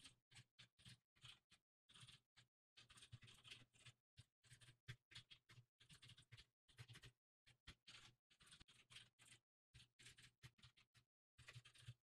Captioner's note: typing sounds